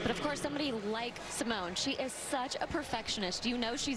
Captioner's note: cheers